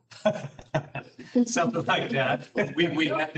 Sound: laughs

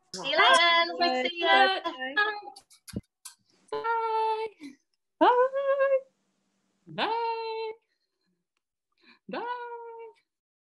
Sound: kissing noises

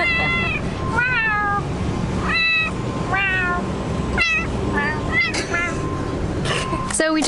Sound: laughs; meowing

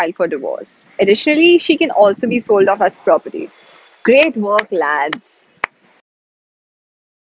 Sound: claps sarcastically

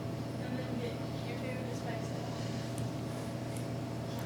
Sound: faintly speaking

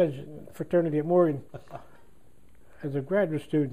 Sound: laughter

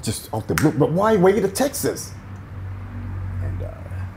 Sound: murmurs

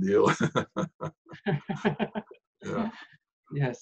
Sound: laughing

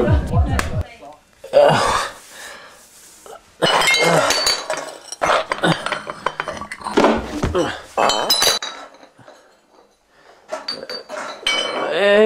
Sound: drunken groaning

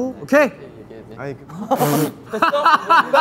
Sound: laughs

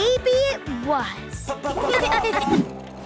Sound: laughing

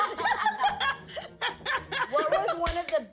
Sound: cast members laugh

